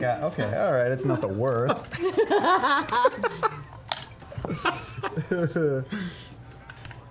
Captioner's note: laughter